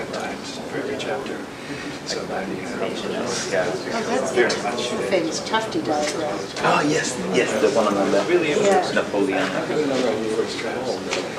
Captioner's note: background chatter